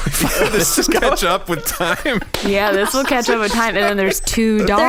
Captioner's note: laughing